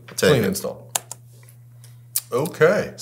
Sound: computer mouse clicks

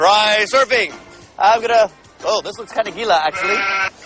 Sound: non-english

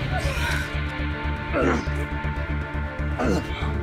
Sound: Rowena groans in pain; Dean groans in pain

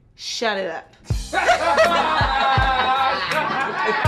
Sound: laughing

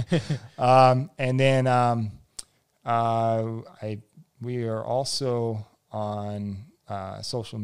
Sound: laughs

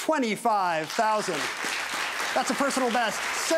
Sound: audience cheers

